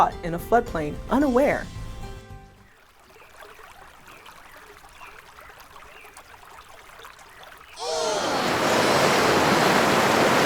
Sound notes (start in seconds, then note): 4.8 birds chirping. rushing water; 7.7 heavy rushing water